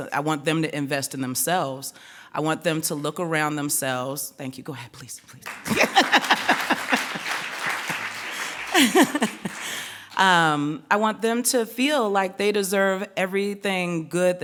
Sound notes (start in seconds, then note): 5.4 clapping; 8.3 laughing